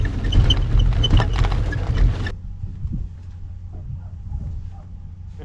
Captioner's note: bicycles braking